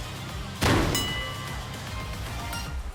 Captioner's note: bang!!